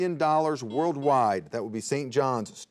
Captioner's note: buzzer beeps